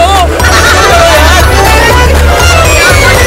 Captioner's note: Amma laughs